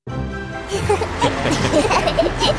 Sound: Tayo giggling

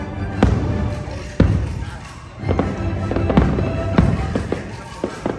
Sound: fireworks booming and cracking

